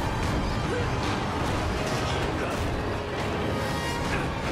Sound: Nathan grunts

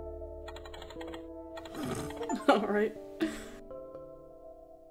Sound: snorts

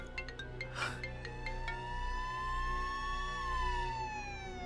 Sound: siren wailing

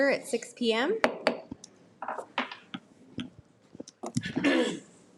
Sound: gavel pounds

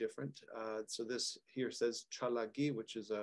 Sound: speaking Cherokee language

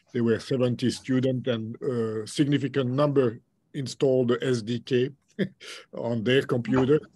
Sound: chuckles

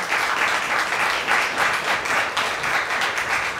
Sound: applause

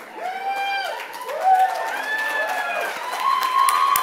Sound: cheers

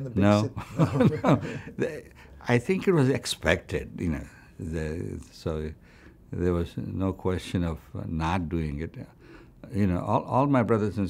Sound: laughs

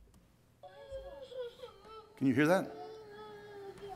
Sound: crying

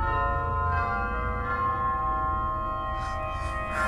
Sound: bell tolls

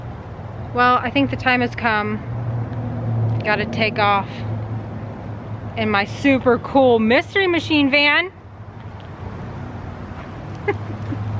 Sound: laughter

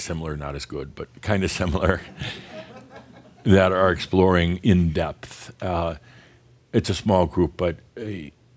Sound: some chuckles

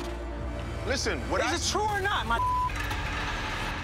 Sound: beep

